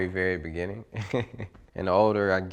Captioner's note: laughs